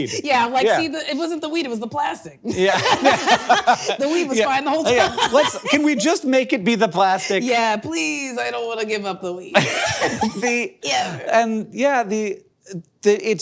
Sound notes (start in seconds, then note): 2.5 both laughing; 9.5 both laughing